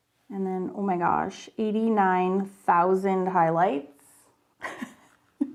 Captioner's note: laughs